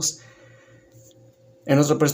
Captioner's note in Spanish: Silencio